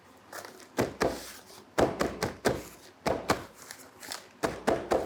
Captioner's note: pot thudding continues